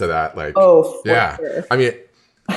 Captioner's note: laughs